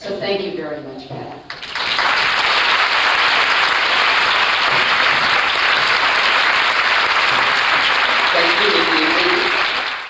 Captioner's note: applause